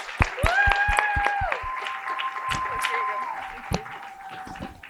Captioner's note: cheering and applause